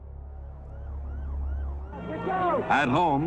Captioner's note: sirens wailing